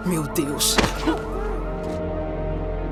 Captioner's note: groaning